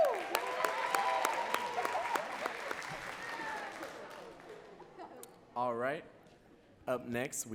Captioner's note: audience cheering and clapping